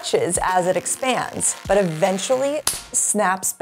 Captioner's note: rubber band squeaking; rubber band snapping